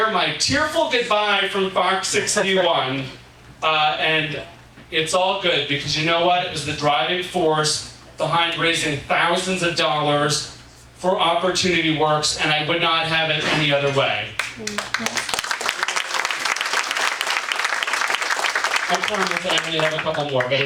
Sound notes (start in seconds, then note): 14.4 audience applauding